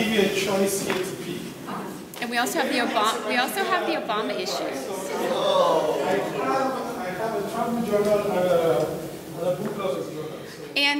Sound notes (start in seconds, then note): 5.1 audience exclaiming